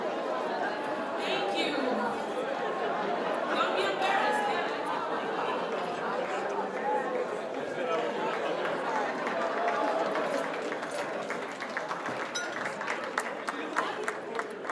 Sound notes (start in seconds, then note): 0.0 crowd laughs again; 0.0 laughter continues; 1.8 happy laughter; 7.1 laughter, crowd chatting, clapping